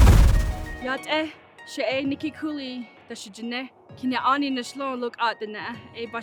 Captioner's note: speaking in Native language